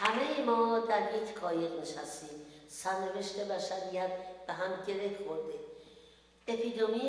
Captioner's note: speaks in foreign language